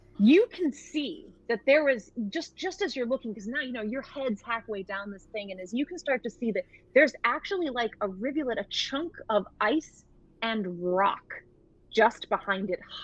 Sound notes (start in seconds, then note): none